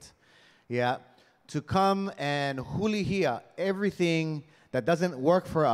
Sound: speaking in Hawaiian

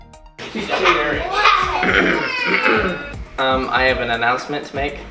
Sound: chattering

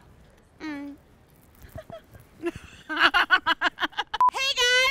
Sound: laughs

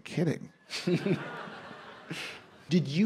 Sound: laughter

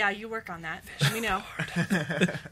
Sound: whispers

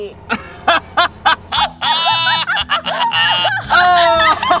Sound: group laughing

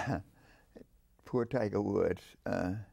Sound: chuckles

